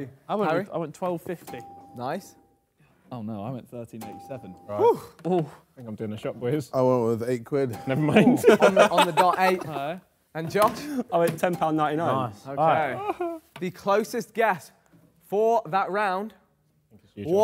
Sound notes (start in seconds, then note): 8.2 laughs